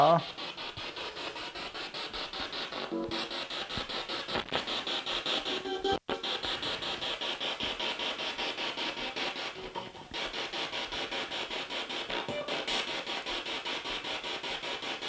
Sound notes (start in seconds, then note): 0.0 sound of the Spirit Box in the background